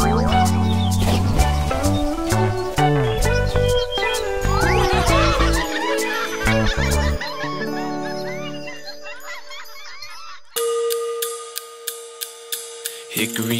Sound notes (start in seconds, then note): 0.4 water sploshes; 3.3 animals laughing; 4.3 animals cheering; 10.5 playful jazz music